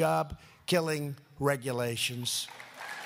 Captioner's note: applause